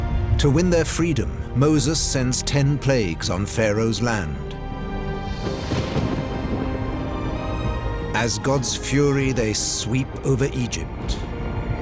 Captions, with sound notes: To win their freedom, Moses sends ten plagues on Pharaoh's land. [thunder crashing] As God's fury, they sweep over Egypt.